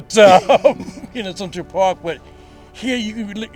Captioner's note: both chuckle